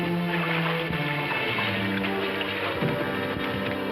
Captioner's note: tense upbeat music; water splashing?